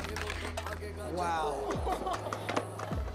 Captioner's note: laughing